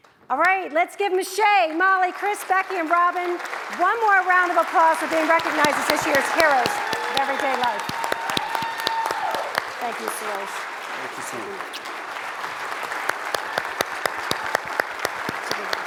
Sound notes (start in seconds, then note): 8.2 audience applauds; 12.6 audience applauds